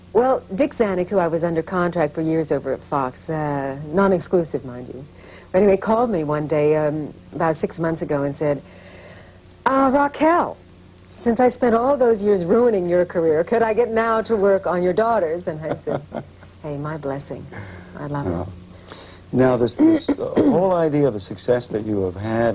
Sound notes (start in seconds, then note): 15.5 laughter